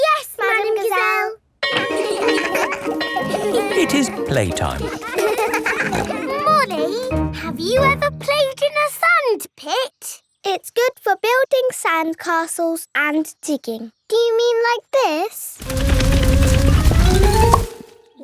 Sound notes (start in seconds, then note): 1.6 bell ringing; 1.7 laughing; 4.5 peppa snorting